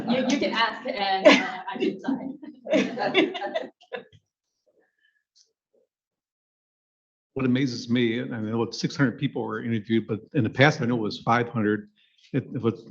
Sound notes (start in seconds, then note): 2.7 people laughing